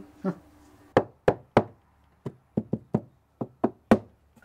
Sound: light knocking

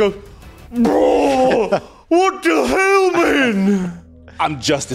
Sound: pukes

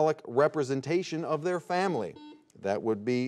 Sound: buzzer beeping

